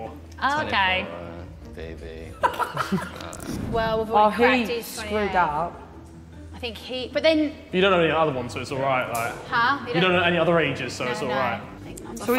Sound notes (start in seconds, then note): 2.4 woman laughing